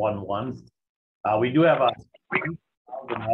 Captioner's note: voice distorting